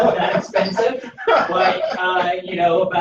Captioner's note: laughter